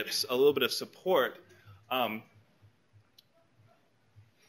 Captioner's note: pause